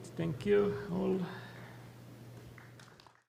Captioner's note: applause